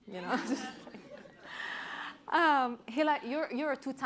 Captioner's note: chuckling